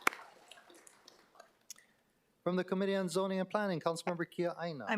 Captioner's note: applause